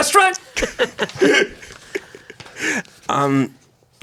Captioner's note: everyone laughs